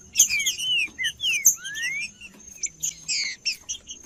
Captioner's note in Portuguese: trinca ferro cantando